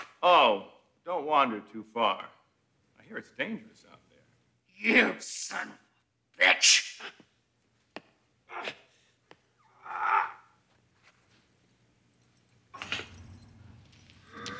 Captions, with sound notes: Oh, don't wander too far. I hear it's dangerous out there. - You son of a bitch! (Leslie grunting)